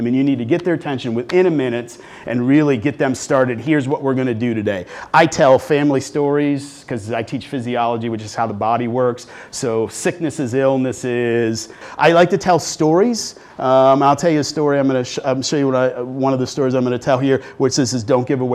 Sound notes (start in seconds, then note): none